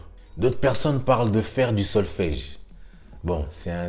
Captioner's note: in french